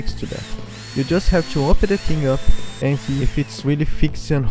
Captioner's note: the engine